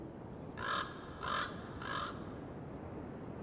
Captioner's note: crow cawing